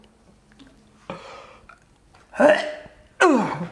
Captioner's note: gagging loudly